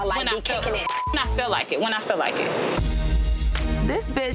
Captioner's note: beep